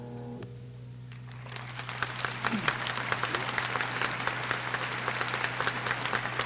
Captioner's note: applause